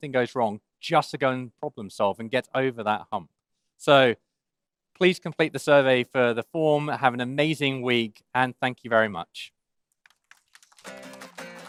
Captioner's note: applause